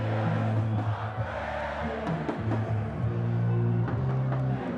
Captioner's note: cheers and Applause